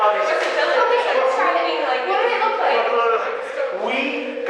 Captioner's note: rambling